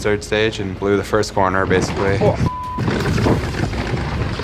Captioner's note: beeps